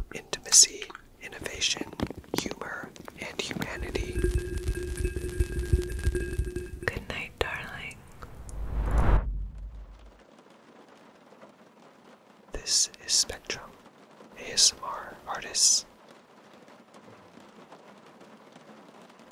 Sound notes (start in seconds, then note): 3.1 ball clinking; 4.1 electricity zapping; 8.0 frame whooshing